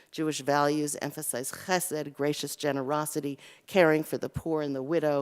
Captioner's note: Hebrew